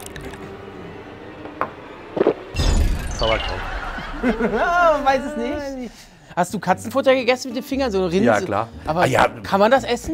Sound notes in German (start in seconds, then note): 0.0 Unheilvolle Musik; 3.5 Schelmisches Lachen